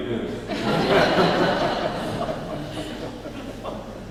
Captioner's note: laughing